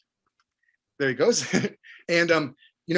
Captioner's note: chuckles